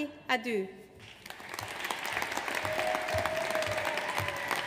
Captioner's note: audience applauds